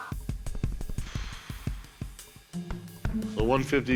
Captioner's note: blows air